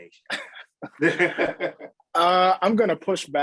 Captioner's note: chuckle